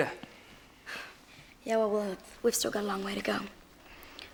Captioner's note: sighs